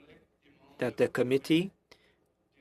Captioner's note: speaking French